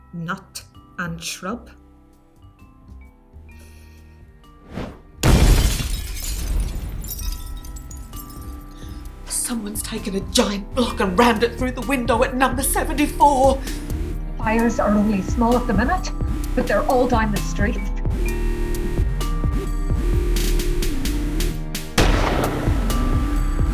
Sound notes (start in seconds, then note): 5.2 sirens and a window breaking